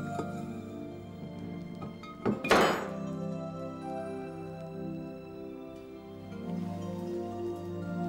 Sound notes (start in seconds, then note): 1.8 metal clanging